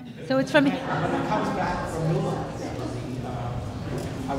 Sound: audience laughter

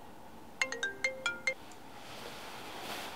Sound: phone jangle

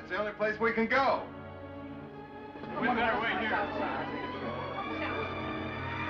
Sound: chattering

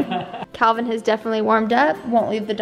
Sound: laughing

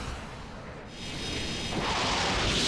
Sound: whirring

